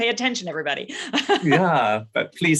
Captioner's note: laughs